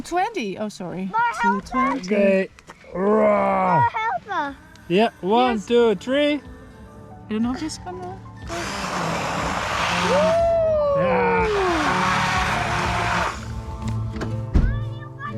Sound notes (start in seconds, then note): 8.4 blender whirring